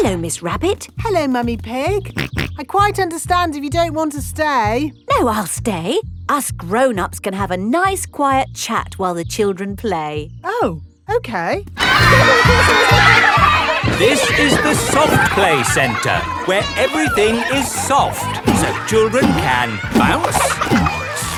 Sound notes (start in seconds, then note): 2.4 snorts; 14.5 loudly over shouting